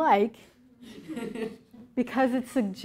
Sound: laughter

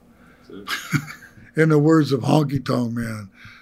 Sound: laughter

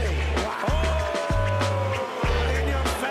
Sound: everyone cheering

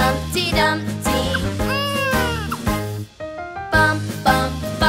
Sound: crying

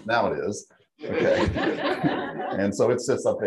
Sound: laughing

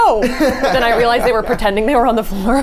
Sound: laughs

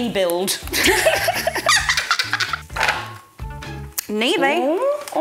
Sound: both laughing

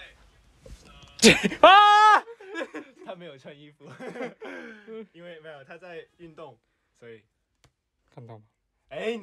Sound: aHHHHH

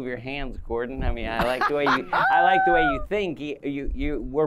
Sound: laughter

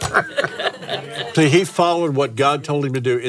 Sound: laughs

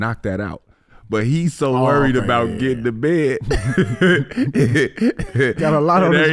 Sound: laughing

